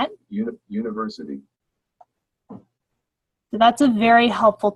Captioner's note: computer voice